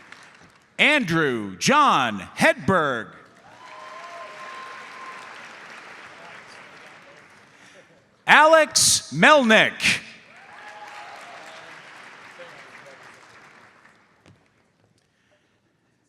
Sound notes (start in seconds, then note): 3.4 audience applauds; 10.3 audience applauds